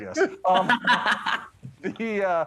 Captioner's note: laughter